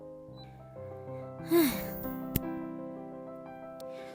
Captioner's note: deep sigh